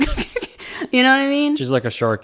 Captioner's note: laughs